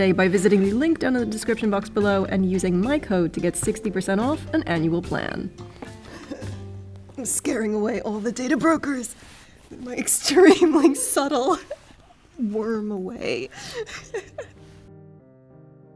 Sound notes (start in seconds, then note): 13.6 chuckles